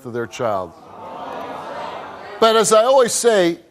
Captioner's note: audience murmurs